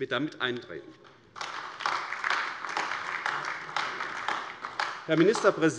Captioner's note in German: Beifall AfD